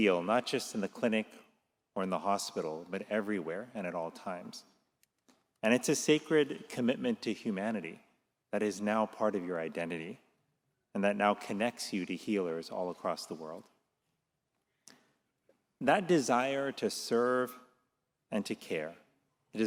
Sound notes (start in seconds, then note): none